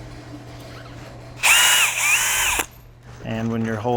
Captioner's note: drill whirring